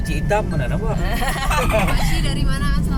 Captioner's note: laugh